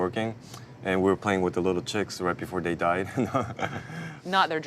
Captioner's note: laughs